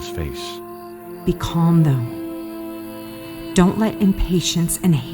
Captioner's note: sweetly hushed